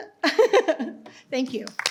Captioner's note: laughs